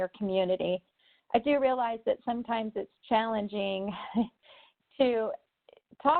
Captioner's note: chuckles